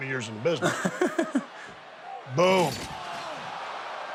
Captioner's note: Sami laughing